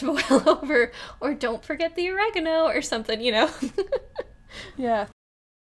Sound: laughs

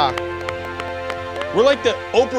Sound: contestants clapping

